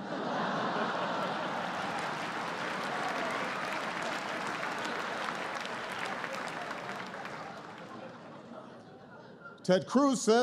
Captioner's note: laughter and applause